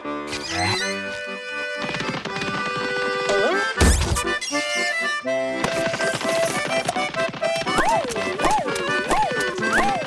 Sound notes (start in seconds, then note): 3.7 thudding